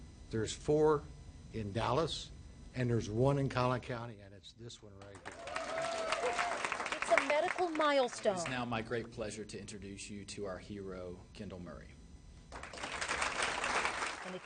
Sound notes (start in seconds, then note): 5.1 audience applauding; 12.5 audience applauding